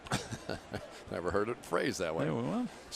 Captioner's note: laughs